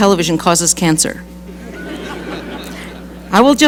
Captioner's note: laughter